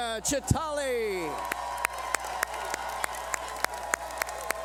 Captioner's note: cheering